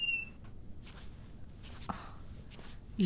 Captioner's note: sighs